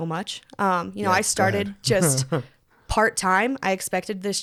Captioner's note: laughs